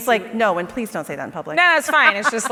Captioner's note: laughs